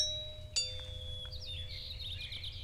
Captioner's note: doorbell rings